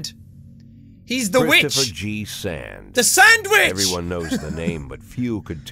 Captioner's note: chuckles